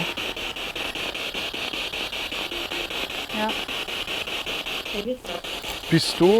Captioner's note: noise of the spiritbox in the background